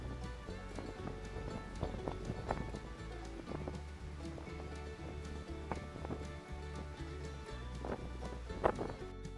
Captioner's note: sound of wind blowing across the camera microphone